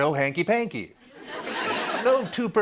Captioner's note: laughter